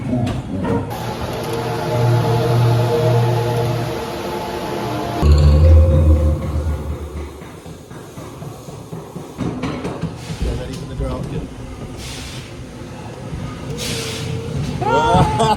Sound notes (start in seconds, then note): 0.8 creaky sounds and eerie music; 6.5 creaking and sounds of the ghost train rolling on the tracks; 14.8 fake scared laughter